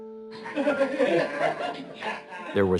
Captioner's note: people cheering